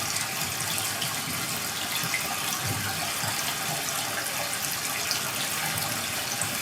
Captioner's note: water trickling continues